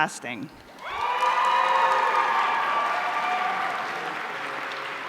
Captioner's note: audience cheering